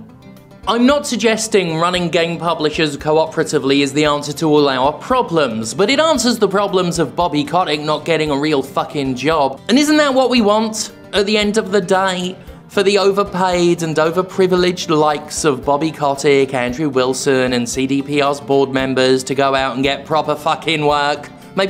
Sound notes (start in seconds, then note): none